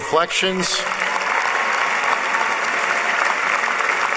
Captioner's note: applause